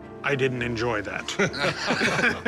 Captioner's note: laughter